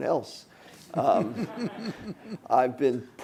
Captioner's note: laughing